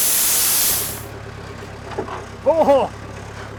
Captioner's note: machine stops